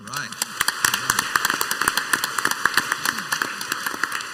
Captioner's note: crowd applauds